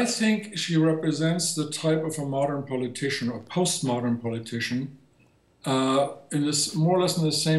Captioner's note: speaking german